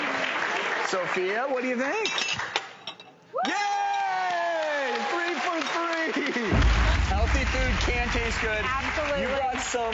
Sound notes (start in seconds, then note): 3.6 crowd applauds; 6.5 dramatic beat; 8.4 crowd applauds